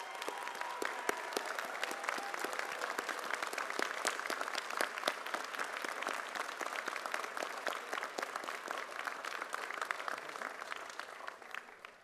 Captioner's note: cheers and applause